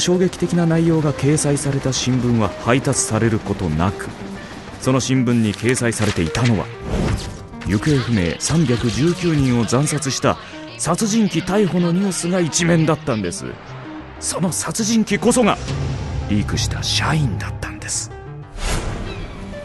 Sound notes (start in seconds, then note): 0.0 printing press noises; 5.4 camera flashes, news crew noises; 5.4 pages turning